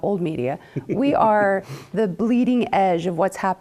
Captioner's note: laugh